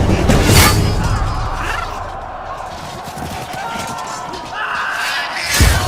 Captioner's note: epic sounds of battle